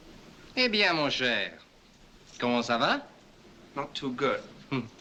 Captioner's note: speaking french